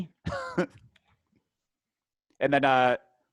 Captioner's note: laughing